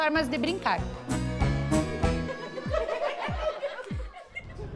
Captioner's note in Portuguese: risos